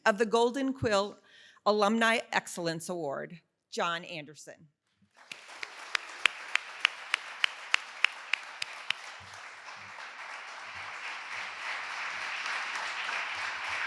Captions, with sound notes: of the Golden Quill Alumni Excellence Award. John Anderson. (audience applauding)